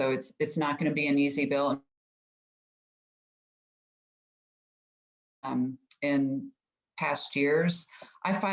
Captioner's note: audio cuts out